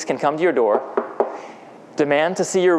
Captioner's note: knocking